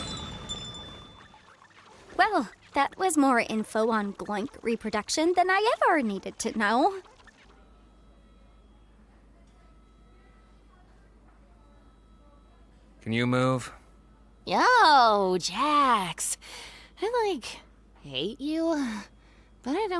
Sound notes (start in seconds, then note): 0.0 bell jingles; 7.6 distant equipment beeping